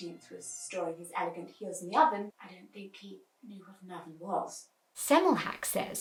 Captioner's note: beat